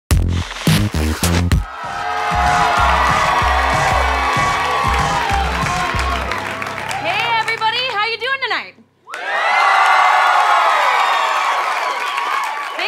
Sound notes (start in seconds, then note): 1.8 applause; 9.0 cheering